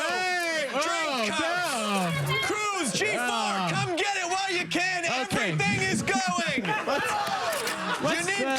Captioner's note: laughter